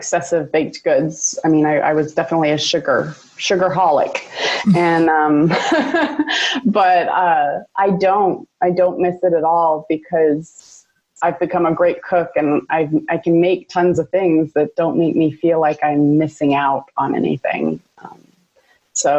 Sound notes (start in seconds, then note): 5.5 laughs